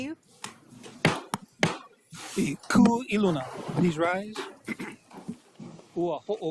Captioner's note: gavel bangs twice